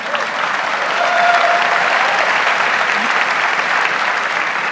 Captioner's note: audience laughs; audience applauds